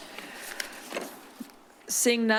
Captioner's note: paper rustles